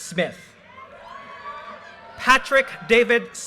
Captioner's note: audience cheers and applause